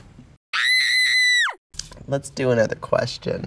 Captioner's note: girl screaming